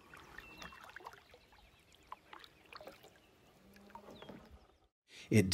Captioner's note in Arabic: خرخرة الماء